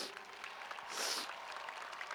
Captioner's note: cheers and applause